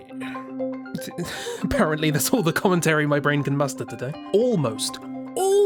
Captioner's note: laughs